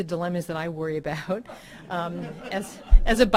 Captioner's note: audience laughing